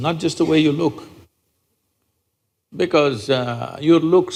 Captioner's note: none